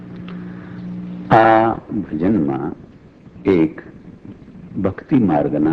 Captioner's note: speaking foreign language